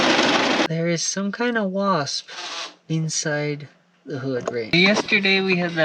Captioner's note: buzz